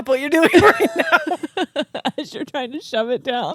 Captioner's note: both laughing